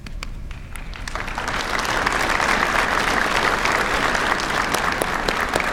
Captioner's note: applause